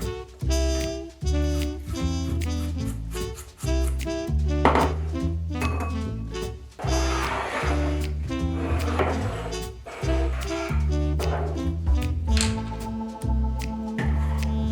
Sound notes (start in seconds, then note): 2.1 knife chopping